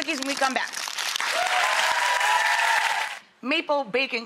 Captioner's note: audience applauds and cheers